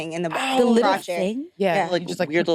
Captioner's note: participants chattering